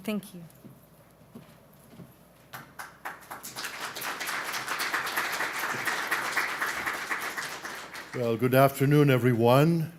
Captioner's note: applause